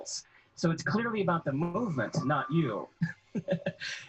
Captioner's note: laughing